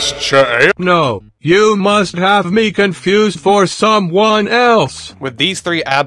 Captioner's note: robotically